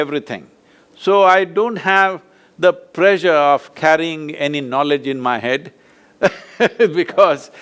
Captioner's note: laughs